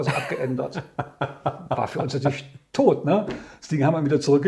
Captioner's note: laughs